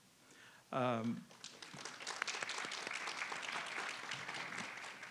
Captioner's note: audience applauds